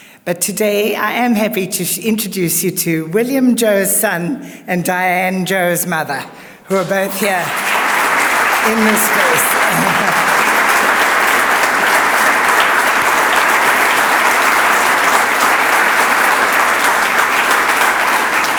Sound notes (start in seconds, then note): 9.9 audience applauds